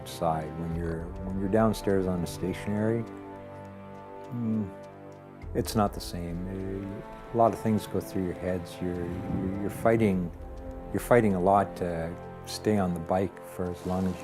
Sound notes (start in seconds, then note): none